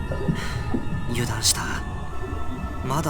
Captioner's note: sigh